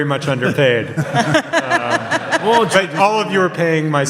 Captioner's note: audience laughs